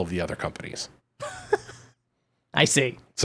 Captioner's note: laughing